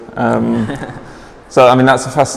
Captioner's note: laughing